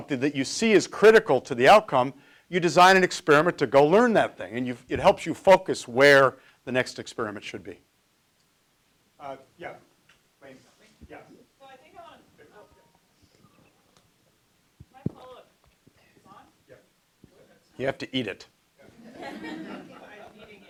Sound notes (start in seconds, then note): 10.6 speaking off mic; 18.9 laughter